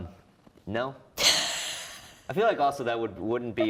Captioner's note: wheeze